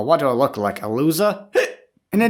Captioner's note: Hic